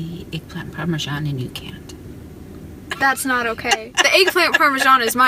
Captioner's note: laughs